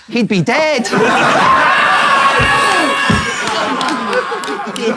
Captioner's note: people in room laughing